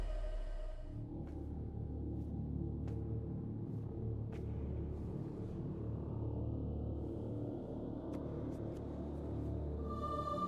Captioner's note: deep droning